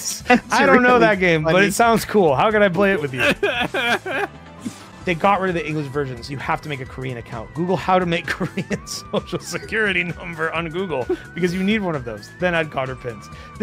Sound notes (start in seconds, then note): 2.9 laughs; 7.8 laughs